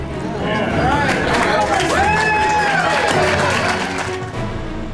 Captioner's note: crowd applause and cheering